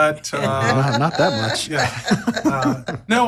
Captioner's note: laugh